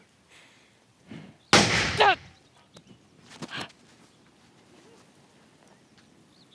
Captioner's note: gun shot. llew shouts in pain